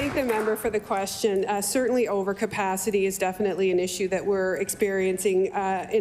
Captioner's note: applause